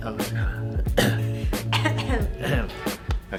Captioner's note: cough